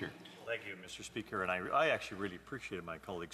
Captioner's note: speaking French